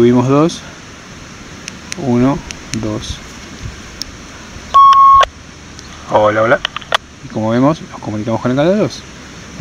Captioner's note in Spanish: acople